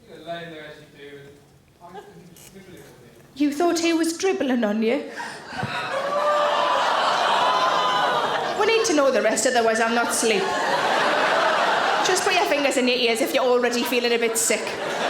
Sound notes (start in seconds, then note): 5.2 audience gasp